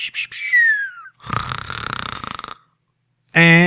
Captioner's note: snoring